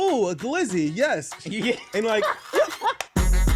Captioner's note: laughing